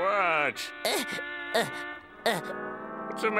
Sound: grunting

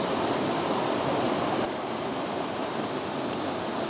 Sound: water rushing

